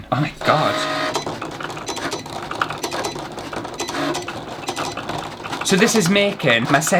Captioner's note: machine Noises